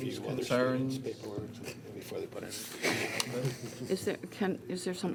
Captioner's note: laughs